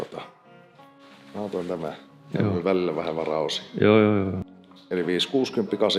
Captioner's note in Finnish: myöntävä ääni